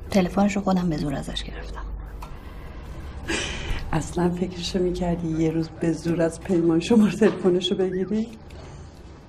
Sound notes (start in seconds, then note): 3.3 laughing